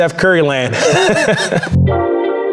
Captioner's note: chuckles; upbeat music fading